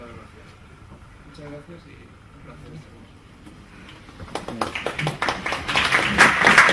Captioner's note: applause